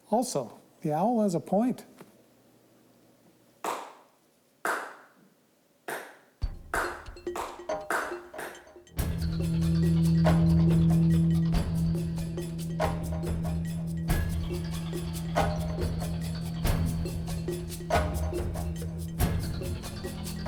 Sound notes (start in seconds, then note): 3.6 man applauds; 6.7 bright upbeat music